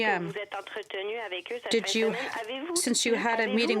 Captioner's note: speaking french